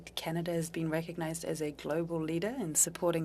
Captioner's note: speaking French